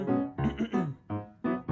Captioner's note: clears throat